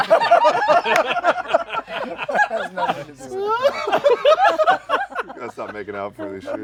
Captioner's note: laughter